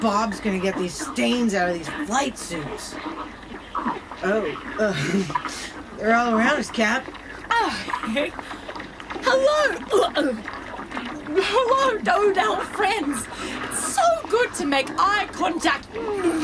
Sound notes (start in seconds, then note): 3.1 Angry squelching intensifies as the Do-Dells surround them; 9.2 cheerful, gagging